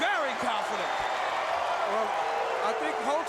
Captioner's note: crowd cheering